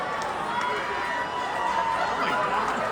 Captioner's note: applause